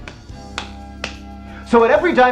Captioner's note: slap